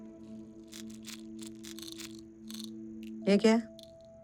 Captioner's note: pills sound